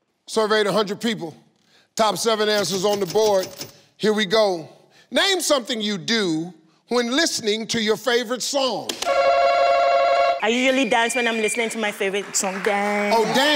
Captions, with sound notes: - Surveyed a hundred people, top seven answers on the board. Here we go. Name something you do when listening to your favorite song. (slaps) (rings) - I usually dance when I'm listening to my favorite song, dance.